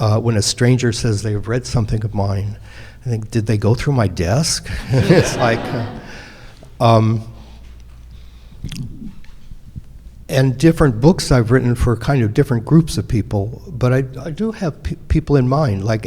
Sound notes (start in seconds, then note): 4.6 audience laughing